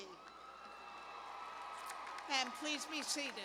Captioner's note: cheers